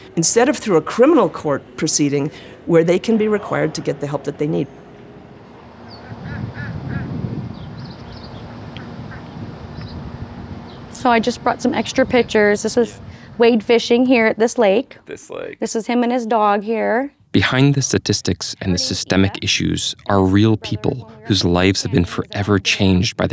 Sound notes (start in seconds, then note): 6.0 birds chirping